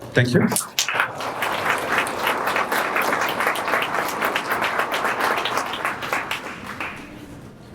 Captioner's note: applause